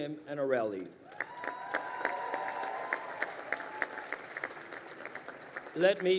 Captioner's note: crowd cheering and applauding